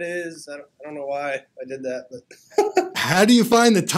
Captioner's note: laughs